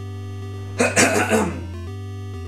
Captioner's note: clean throat